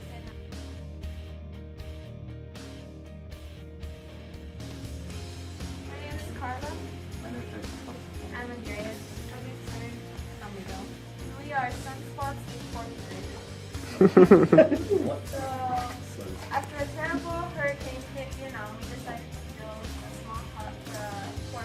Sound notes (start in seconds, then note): 13.8 background laughter